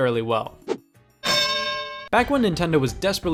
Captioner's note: bell dings